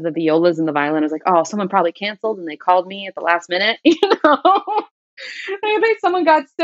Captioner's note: laughter